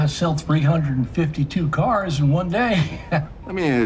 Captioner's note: laughing